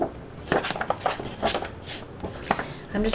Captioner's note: paper flapping